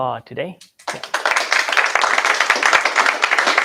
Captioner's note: applause